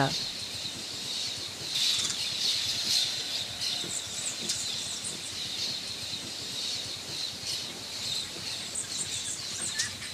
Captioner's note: birds chirping